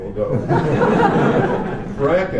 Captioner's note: laughter